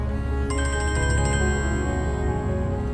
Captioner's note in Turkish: Telefon çalıyor